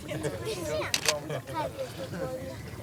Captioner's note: camera clicks